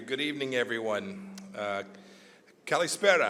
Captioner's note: speaks Greek